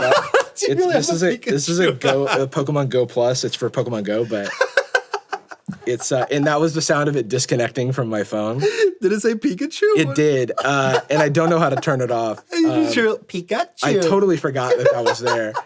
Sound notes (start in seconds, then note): 0.0 laughs; 4.2 laughing; 14.5 laughing